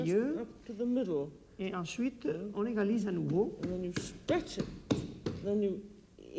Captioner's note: speaking French